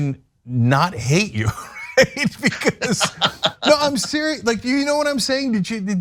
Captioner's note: laugh